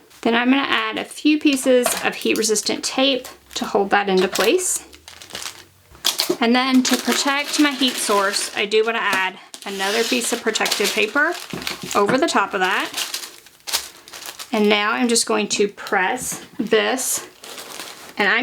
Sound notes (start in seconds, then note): 5.1 rustling; 11.3 paper rustling